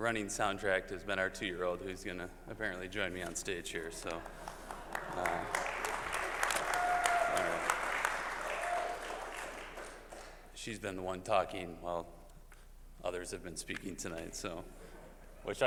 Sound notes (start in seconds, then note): 8.5 applause